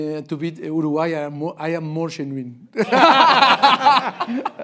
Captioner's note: robust laugh break